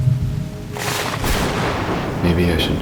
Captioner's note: thunder crack